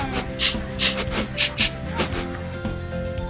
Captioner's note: sniffing